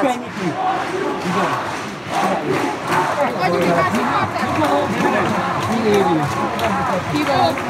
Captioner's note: chanting